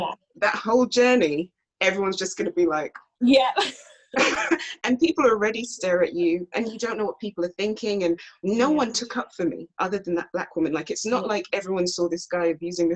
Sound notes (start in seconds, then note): 3.6 laughs